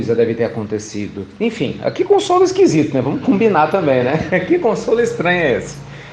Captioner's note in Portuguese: Risos